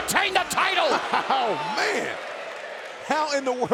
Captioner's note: laughs